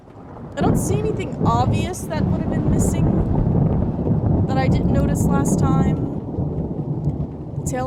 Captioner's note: thunder Rumbling